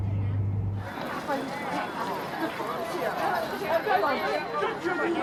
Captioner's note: crowd murmuring